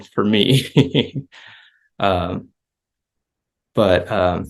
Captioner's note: laughs